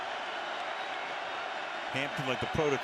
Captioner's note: crowd clamoring